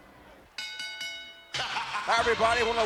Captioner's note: ring bell clanging